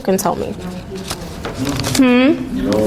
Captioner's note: students murmuring